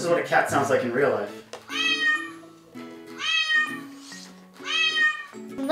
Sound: recording of a cat meowing

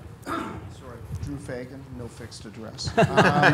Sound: voiceover; laughs

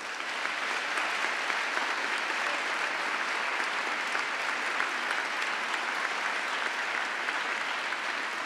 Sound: applause

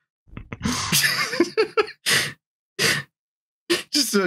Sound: laughter

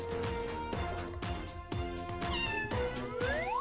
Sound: meowing

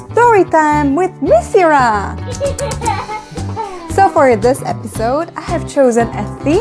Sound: baby laugh

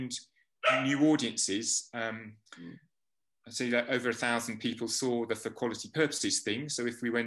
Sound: dog barks

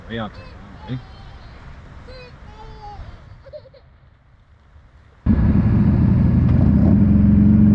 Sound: engine roaring

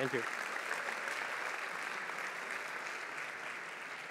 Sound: applause

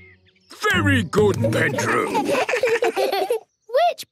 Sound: children giggle

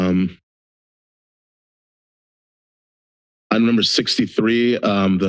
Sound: silence

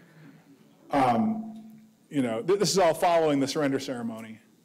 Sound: none

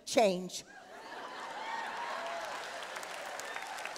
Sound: applause

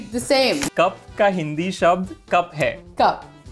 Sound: speaking in Hindi

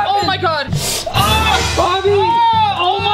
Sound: screaming

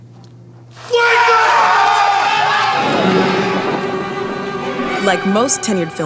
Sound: chains jangle

